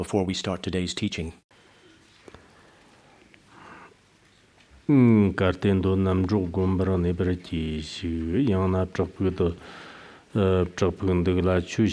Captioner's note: giving oral transmission in Tibetan